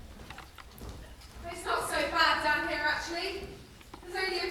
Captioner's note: splashing